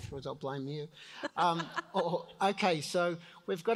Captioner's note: laughs